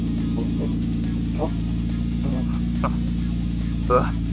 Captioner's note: grunting